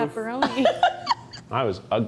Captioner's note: crew member chuckles